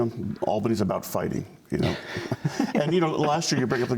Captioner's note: laughter